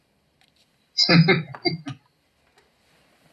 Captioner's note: chuckling